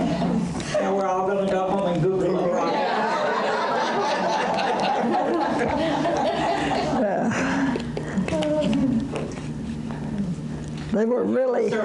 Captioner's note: audience laughter